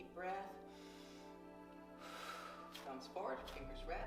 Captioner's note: deep breathing